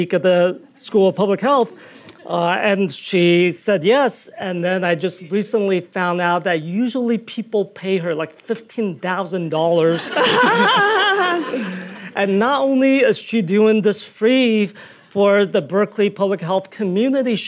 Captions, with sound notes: "at the School of Public Health?" And she said yes, and then I just recently found out that usually people pay her like $15,000. (laughing) (audience laughing) And not only is she doing this free for the Berkeley public health community,